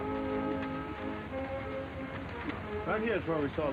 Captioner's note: horses trotting